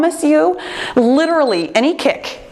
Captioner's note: timer beeps